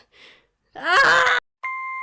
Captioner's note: screams